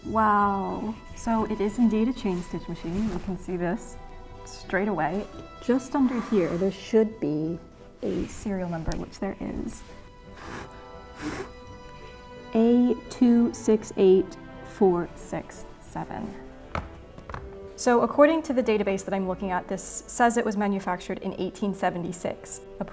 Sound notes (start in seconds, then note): 9.9 blows